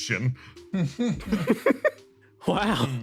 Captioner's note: laughs